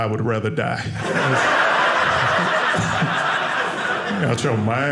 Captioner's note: audience laughing